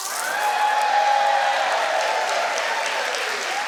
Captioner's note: audience cheers